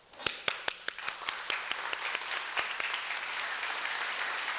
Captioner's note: applause